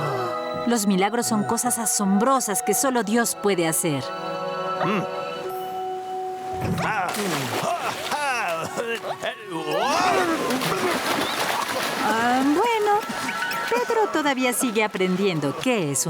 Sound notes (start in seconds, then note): 9.5 grunting; 9.7 splash